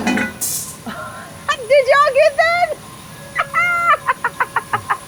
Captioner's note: laughs